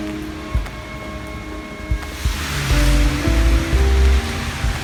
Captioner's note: distant car horn